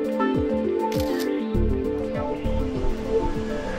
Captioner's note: camera snaps